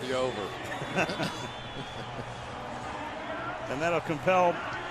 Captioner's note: laughs